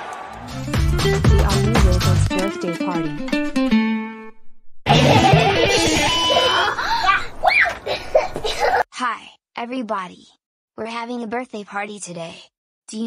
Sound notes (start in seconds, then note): 4.8 kids giggling and instruments playing